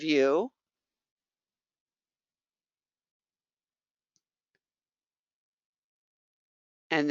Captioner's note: 5 seconds pause